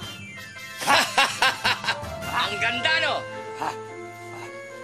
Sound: laughs

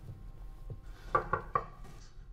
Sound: knocking

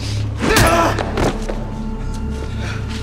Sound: man groaning; tense music continues

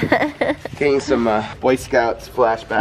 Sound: laughs

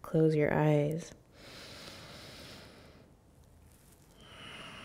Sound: inhaling; exhaling

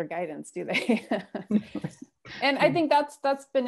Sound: laughter

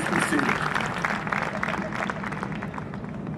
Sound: applause

